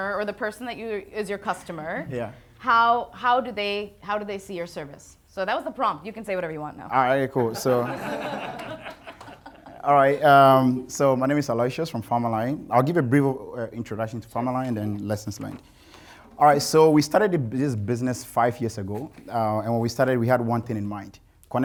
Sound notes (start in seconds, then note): 7.4 audience laughing